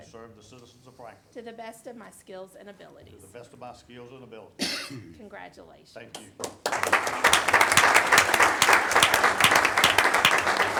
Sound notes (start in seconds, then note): 6.1 audience applauding